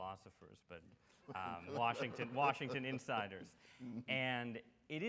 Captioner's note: Dr. West and audience laugh